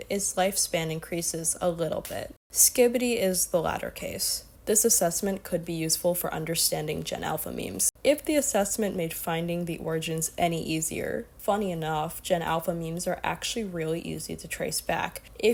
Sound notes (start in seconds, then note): none